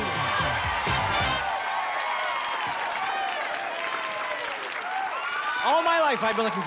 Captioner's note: cheering